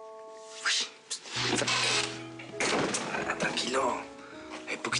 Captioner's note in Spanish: Exclamación